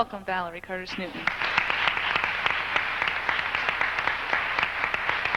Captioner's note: congregation clapping